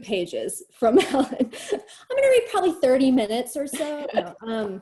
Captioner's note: chuckles